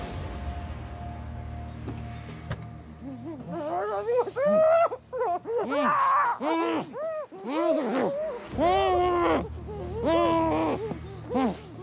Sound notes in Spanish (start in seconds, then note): 5.5 gritos reprimidos; 8.0 quejidos reprimidos